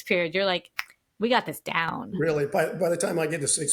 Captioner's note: snaps fingers